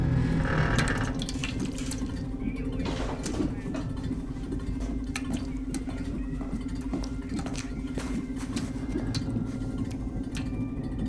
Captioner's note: creaking; dripping; suspenseful music